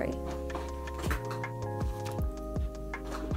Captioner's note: clattering